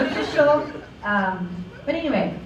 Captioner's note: laughter